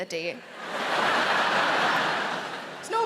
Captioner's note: audience laughing